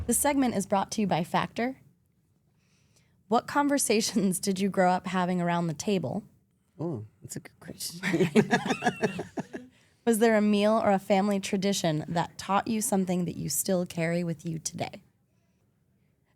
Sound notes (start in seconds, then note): 8.0 laugh